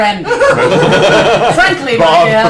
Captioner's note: laughter